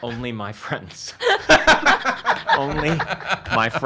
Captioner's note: laughs